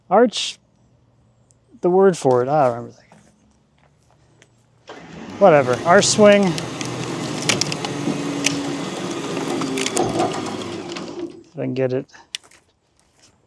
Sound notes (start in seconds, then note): 7.5 machinery humming